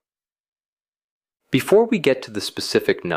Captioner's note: pause